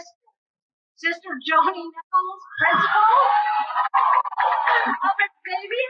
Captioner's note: cheering